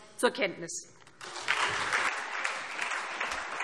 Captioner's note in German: Anhaltender Beifall SPD und Freie Demokraten - Beifall AfD und DIE LINKE